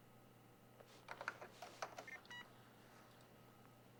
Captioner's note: keyboard clacking; beeps